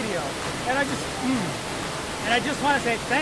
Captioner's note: clears throat